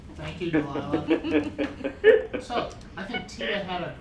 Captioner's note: laughter